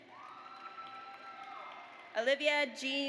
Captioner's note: audience applauds